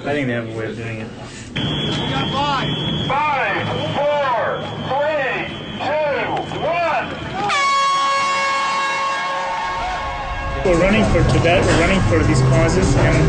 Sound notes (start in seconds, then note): 1.5 whistle; 8.7 horn sounds